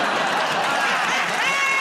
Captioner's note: laughter